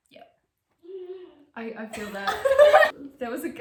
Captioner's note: laughs